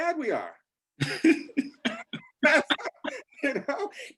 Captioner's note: all laugh